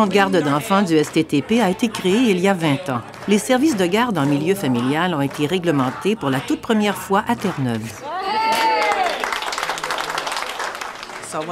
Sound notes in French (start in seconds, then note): 8.3 Applaudissements